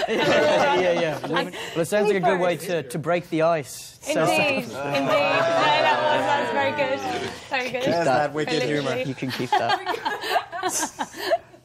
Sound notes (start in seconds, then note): 0.0 all laughing; 4.7 all groaning; 8.9 laughing